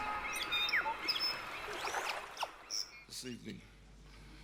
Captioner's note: birds chirping